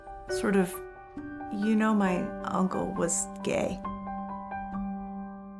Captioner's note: speaking softly